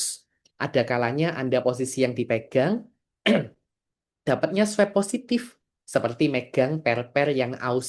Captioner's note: berdehem